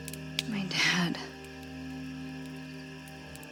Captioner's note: crickets Chirping